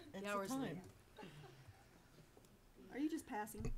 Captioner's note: laughing